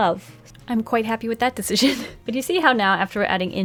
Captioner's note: laughs